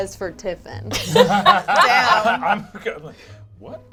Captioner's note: all laugh